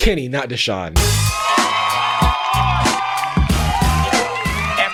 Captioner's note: crowd cheers